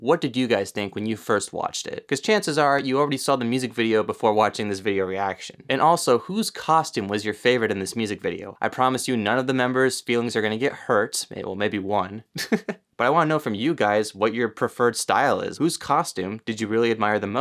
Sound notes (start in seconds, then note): 12.3 giggles